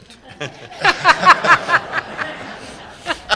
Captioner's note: laughter